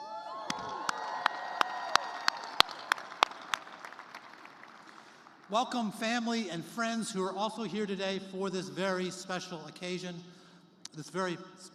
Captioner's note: cheers and applause